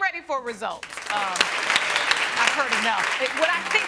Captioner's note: audience applauding